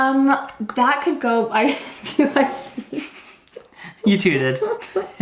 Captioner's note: laughs